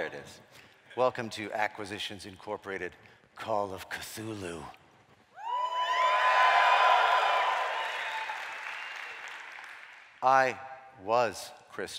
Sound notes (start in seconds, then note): 5.4 cheering